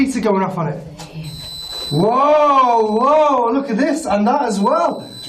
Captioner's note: tone screeching